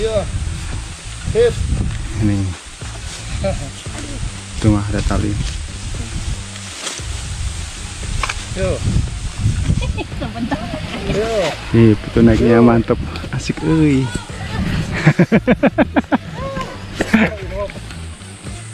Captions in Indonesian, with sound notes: Iya sip ini aduh tuh mah ada tali sebent nih pu naiknya mantap asik euy [Tertawa]